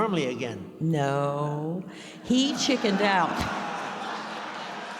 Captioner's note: audience laughs